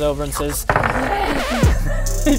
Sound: record scratch; sultry music

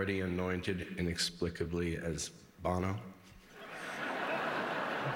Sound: laughter

